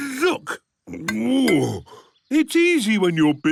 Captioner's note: grunts